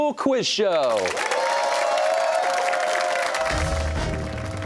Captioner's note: cheers and applause